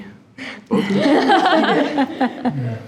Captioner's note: laugh; trustees laughing